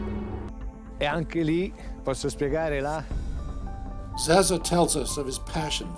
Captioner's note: speaking in a foreign language